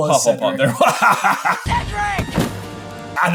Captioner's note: laughing